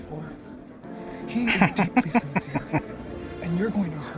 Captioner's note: laughing